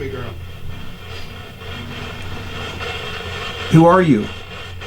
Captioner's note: radio static hisses